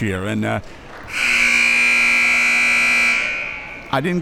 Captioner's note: buzzer blaring